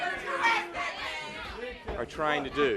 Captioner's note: crowd chatter